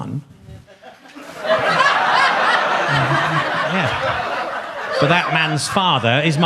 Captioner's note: audience laughs